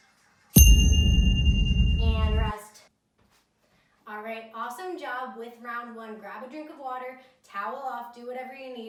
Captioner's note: ding